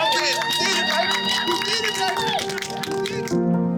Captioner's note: crowd cheering and applauding